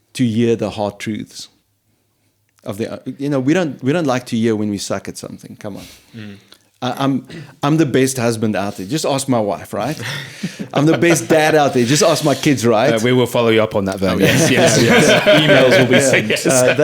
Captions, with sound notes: to hear the hard truths of the, we don't like to hear when we suck at something, come on. I'm the best husband out there, just ask my wife, right? I'm the best dad out there, just ask my kids, right? We will follow you up on that, Vern. Yes, yes, yes. (all laughing) Emails will be sent.